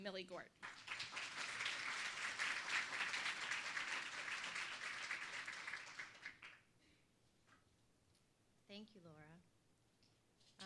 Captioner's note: applause